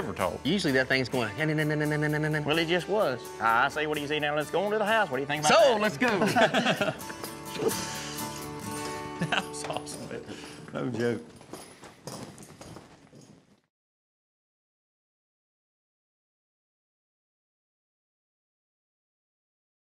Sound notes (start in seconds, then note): 1.1 chatter noise; 3.5 auction voice; 6.0 laughter